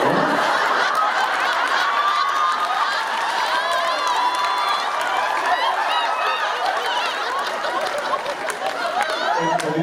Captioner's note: delighted peals of laughter